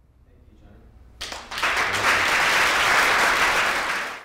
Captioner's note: applause